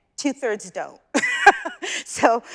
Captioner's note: chuckles